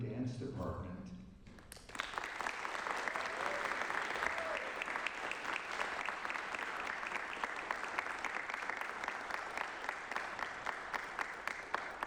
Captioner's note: applause